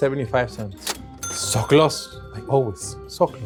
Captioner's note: cash register dings